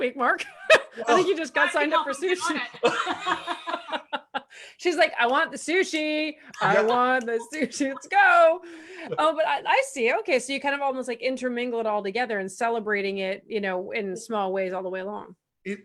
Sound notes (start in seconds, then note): 0.2 laughs; 2.2 murmurs; 2.4 laughs